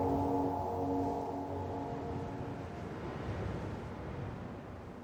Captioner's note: wind blowing